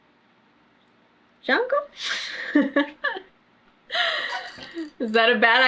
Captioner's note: laughs